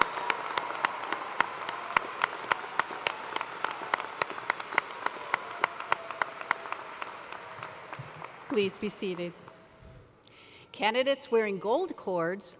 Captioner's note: cheers and applause